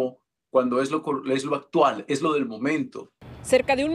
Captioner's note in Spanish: habla en ingés